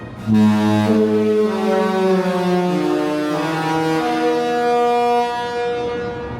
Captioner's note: ship horn blares " "